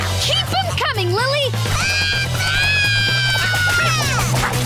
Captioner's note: yelling